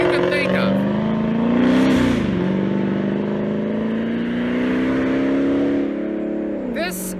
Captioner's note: engine revving